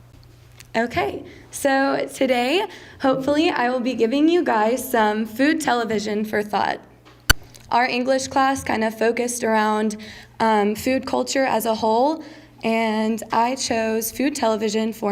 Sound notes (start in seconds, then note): none